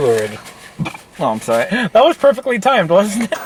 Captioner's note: burps